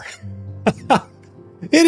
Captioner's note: laughs